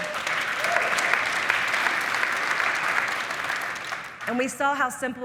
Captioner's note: audience applauding